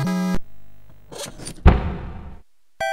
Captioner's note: bam